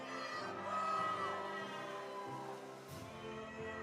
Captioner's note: audience cheering; audience applauding